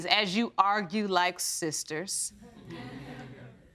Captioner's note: audience sniggering